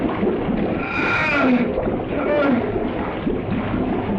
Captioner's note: liquid splashing; Carl groaning